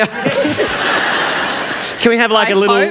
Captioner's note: laughter